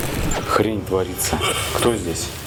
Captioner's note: sound of cough